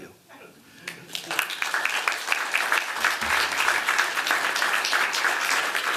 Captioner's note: applause